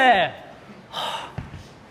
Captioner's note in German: seufzt